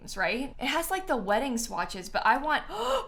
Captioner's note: gasps